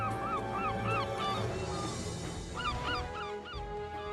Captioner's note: gulls Caw